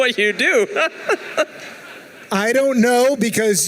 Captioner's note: laughing